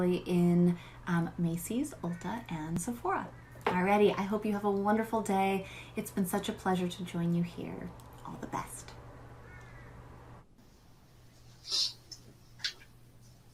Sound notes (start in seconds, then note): 9.4 crow squawks